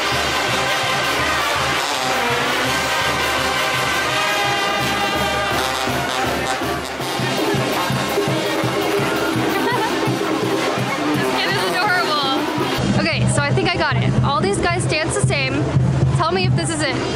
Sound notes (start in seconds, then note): 0.0 parade band playing music; 9.4 laughter